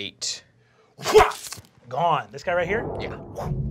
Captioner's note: slashing